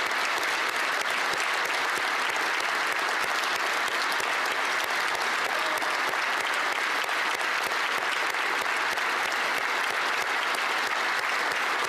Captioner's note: applause